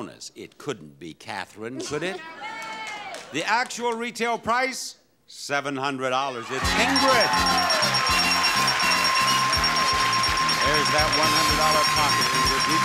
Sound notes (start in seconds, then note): 6.5 audience applauds; 6.6 jaunty music